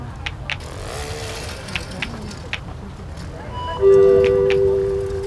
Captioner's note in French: L'enfant imite un bruit de moteur